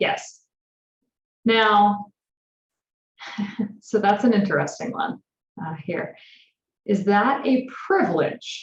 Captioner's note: laughter